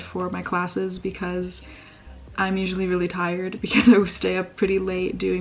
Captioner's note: laugh